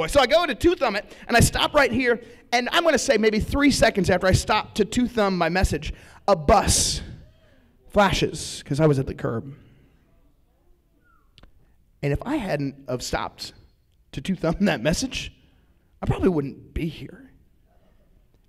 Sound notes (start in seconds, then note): 11.0 whistles